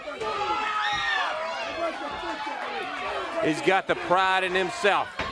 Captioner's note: crowd cheering